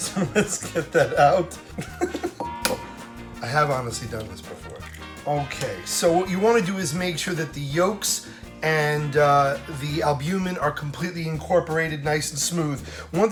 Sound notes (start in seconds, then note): 0.0 laughs